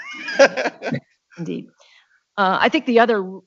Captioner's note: laugh